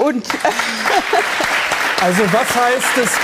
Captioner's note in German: Applaus; Lachen